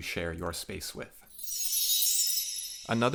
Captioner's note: chime sound